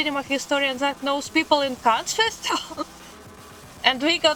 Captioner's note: laugh